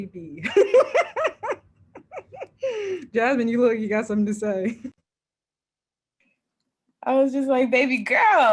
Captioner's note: laughs